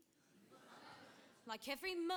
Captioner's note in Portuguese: audience laughing